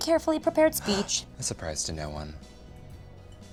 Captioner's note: gasps